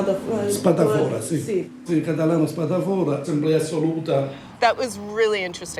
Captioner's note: speaks in foreign language